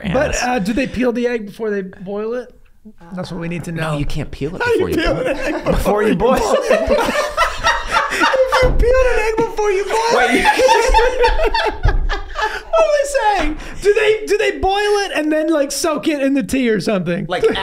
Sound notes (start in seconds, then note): 5.2 laughing; 7.1 everyone laughing; 10.6 laughing